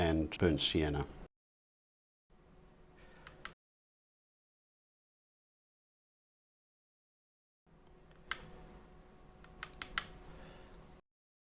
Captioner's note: silence